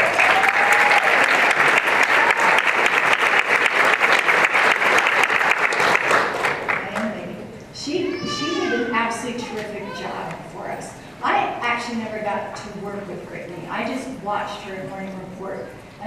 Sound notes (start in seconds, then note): 0.0 applause